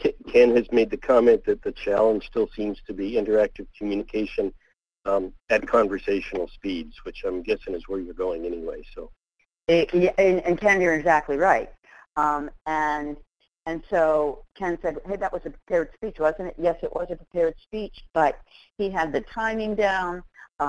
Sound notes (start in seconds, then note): 10.4 voiceover